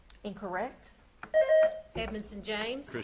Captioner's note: buzzer beeps